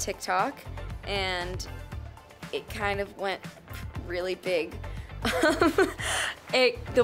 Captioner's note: laughs